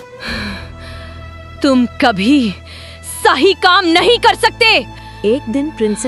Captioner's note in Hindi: अचानक ज़ोर से सांस लेने की आवाज़; गहरी सांस लेने की आवाज़